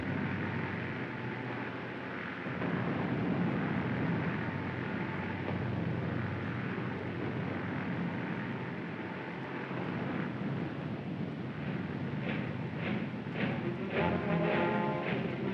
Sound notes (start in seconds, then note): 2.1 faint rumbling sounds; 13.4 dramatic music